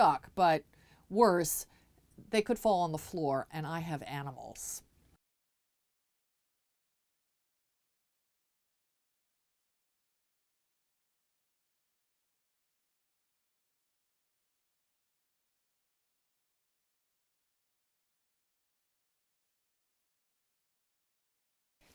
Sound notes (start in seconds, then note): 5.1 no Sound Present